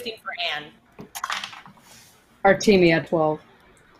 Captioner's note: dice clatters